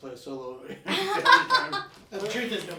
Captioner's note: all laughing